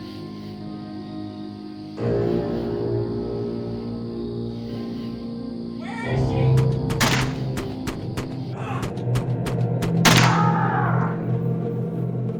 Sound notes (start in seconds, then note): 8.5 more gunshots, Roy screams; 9.1 earlier gunshots repeat